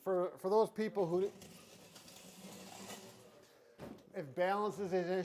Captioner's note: chair sliding